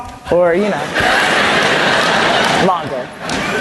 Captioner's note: laugther